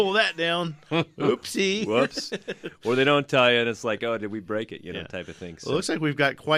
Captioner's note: laughs